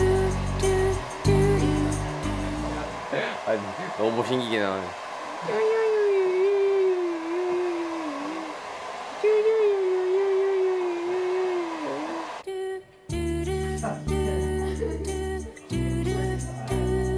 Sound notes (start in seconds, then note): 5.3 makes baby noises; 13.0 relaxing music plays